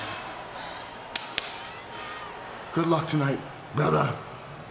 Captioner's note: slapping shoulder